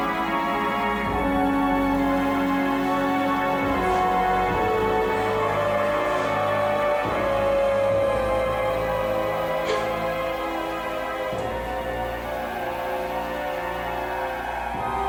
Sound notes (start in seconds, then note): 9.6 Cathy crying